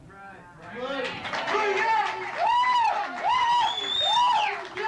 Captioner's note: audience cheering